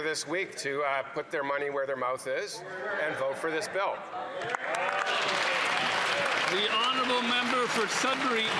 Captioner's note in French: voix de l'interprète